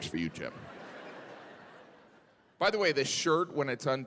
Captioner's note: audience laughing